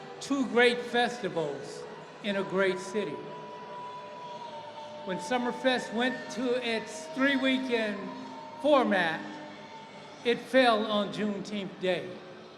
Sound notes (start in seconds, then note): 3.4 hooters honking